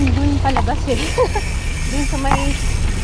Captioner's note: laughs